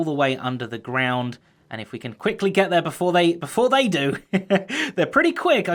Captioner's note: chuckles